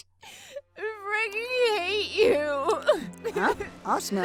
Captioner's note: Asuna starts crying; Asuna crying; crying